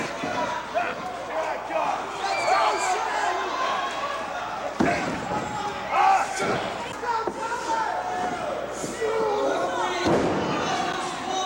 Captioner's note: crowd chatter